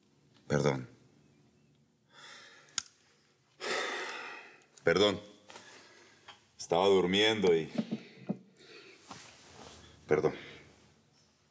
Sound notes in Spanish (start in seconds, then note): 3.6 Suspiros